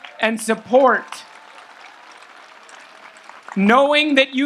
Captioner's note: audience applauds